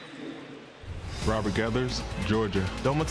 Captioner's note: pa announcement